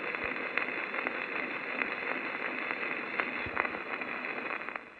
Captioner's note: static crackling